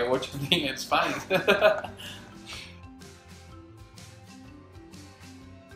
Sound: laughter

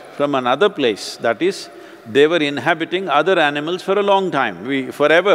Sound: none

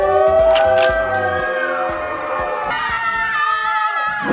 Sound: girls cheer

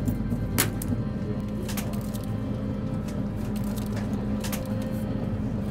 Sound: oyster shells clattering

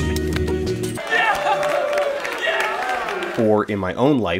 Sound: other men cheer

